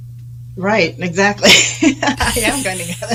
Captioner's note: chuckles